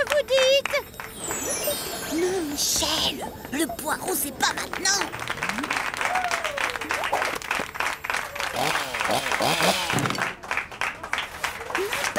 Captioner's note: applause